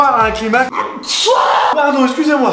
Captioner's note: atchouuuuum